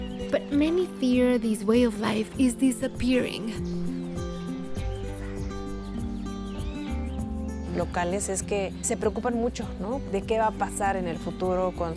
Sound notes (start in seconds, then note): 7.6 speaking Spanish